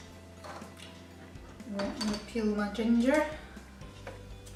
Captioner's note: Scottish accent coming out